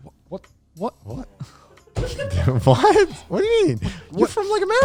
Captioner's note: laughing